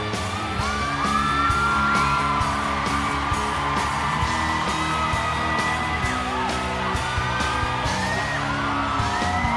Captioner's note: cheering